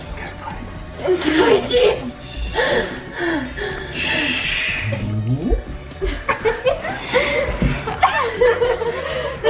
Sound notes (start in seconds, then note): 6.0 giggling